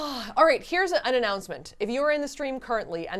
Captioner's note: sighing